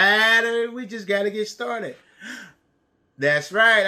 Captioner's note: gasps